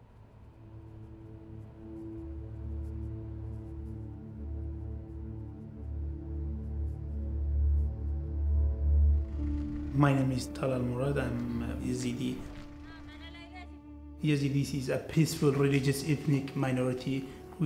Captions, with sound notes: (soft somber music) - My name is Talal Murad. I'm Yazidi. (women speak in foreign language) Yazidis are peaceful, religious ethnic minority